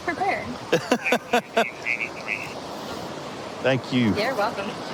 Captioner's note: laughing